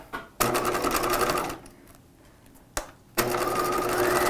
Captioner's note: machine whirring